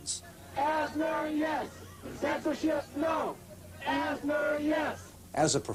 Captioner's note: protestors Chanting